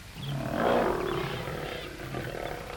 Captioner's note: birds Chirping